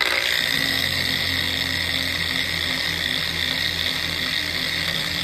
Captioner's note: grinding